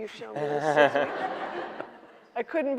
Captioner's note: audience laughing